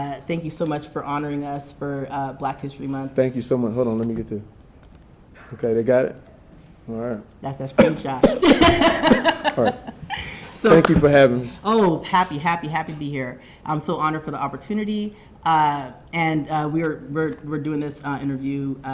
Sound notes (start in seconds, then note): 7.8 Jamie coughing; 7.8 laughing